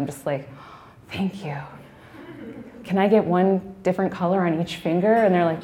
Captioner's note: gasping